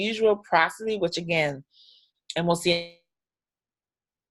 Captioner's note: audio drops out